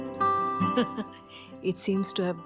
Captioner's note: laughs